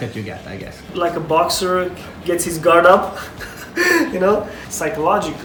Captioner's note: laughs